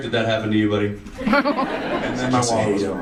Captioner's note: audience laughs